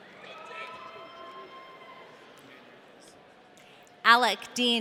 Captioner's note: audience cheering